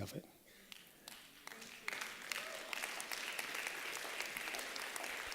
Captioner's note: applause